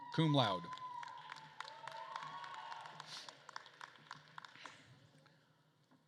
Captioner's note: attendees cheering and applauding